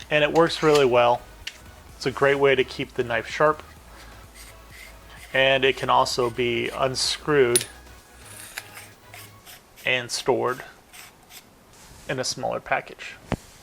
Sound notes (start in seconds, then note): 8.8 handle scraping